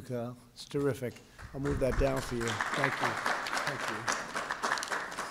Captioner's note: applause